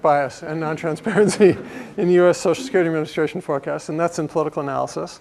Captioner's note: laugh